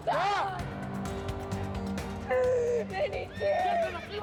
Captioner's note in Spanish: Sollozos; Relinchos